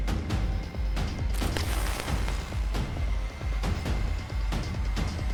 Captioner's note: zzzt